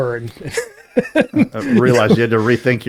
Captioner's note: laughs